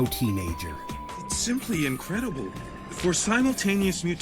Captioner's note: uncharacteristically whiny